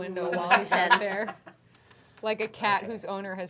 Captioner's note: laughter